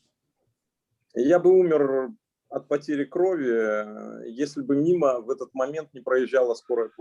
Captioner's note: speaking Russian language